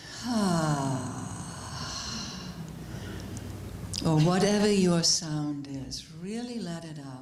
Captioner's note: sound of exhalation